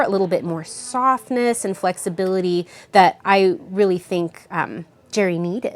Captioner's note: none